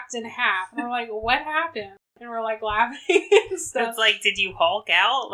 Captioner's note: laughs